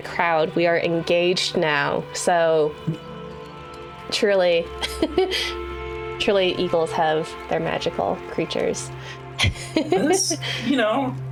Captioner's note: laughs